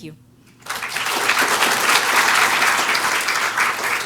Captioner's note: applause